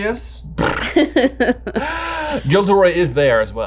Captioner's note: blows a raspberry, chuckles